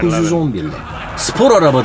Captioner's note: audience laughing